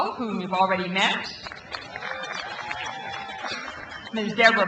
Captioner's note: crowd applauds